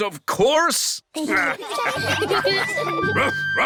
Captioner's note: all laughing; captain and danny dog bark